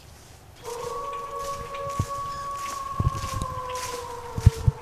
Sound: wolf howls

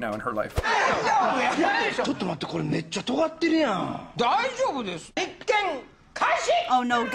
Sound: speaking Japanese

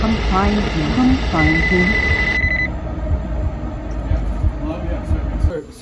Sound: A phone rings

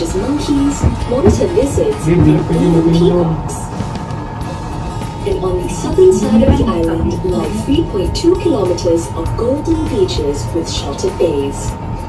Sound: indistinct chatting

